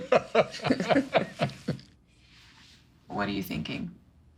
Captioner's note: chuckling